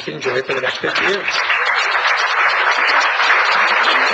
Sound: applause

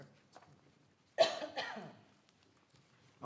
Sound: cough

